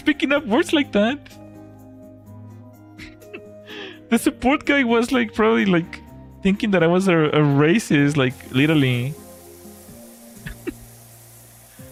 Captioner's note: laughter